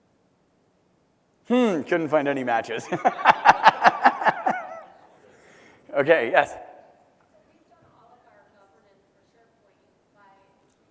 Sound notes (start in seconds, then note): 2.8 laugh